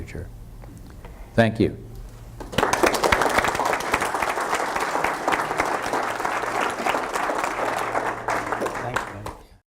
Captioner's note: audience applause